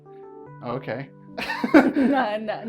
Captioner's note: both laugh